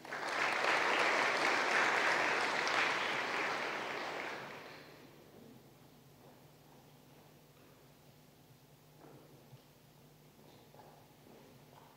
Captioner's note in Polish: oklaski